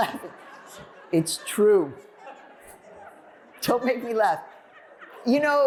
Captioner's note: laughter